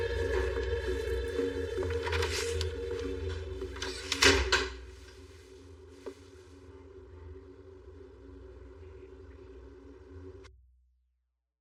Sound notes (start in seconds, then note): 3.6 doooor slams